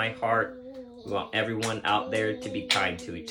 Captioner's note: child clapping